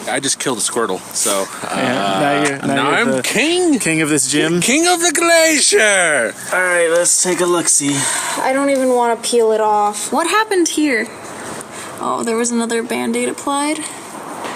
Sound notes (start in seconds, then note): 1.4 laughs; 4.9 in a higher pitched voice